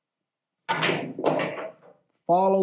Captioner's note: balls clacking